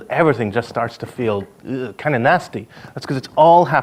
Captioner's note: retches